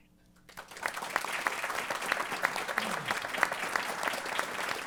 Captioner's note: applause